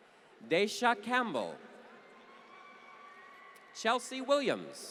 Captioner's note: applause